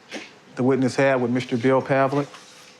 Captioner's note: speaking Spanish